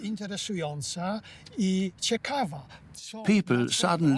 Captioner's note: in Polish